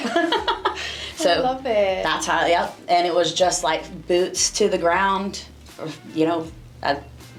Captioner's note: laughing